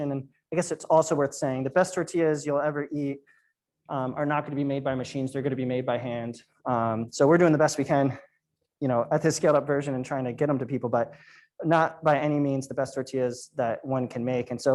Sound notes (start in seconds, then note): none